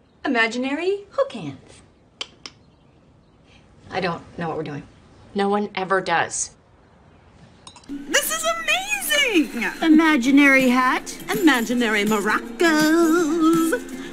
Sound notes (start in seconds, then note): 2.1 makes clicking noise